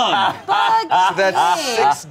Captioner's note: everyone laughs